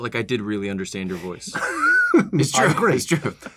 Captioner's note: laughs